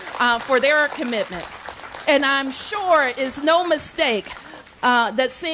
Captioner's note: applause